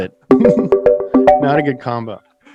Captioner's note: phone ringing